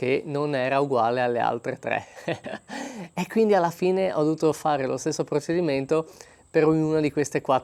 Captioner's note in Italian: risate